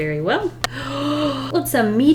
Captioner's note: gasps